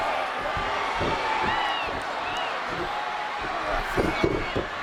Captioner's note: audience cheering